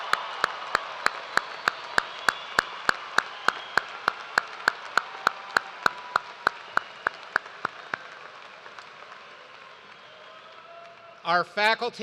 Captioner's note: cheers and applause